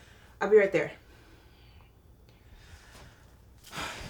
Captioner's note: sighs